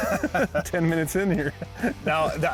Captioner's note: laughs